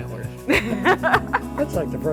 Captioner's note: both laughing